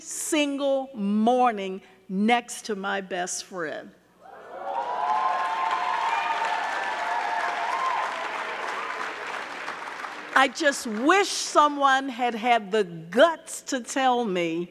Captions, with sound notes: every single morning next to my best friend. (audience cheering) (audience clapping) I just wish someone had had the guts to tell me